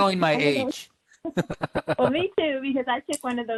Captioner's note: laughs